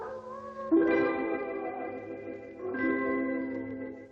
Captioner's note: light dramatic music; wolf howling